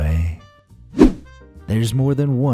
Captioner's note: whoosh